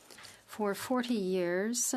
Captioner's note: speaking French